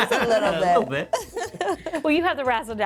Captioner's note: laughs